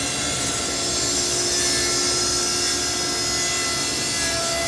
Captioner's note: sawing through wood